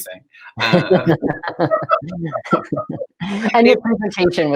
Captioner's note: both laughing